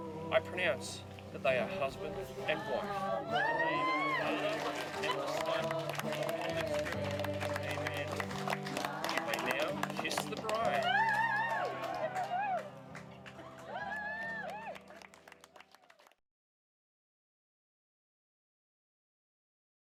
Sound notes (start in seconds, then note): 4.0 sound of cheering and applause; 11.8 applause